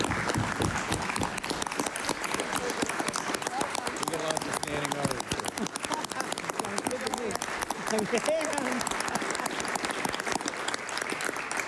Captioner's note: applause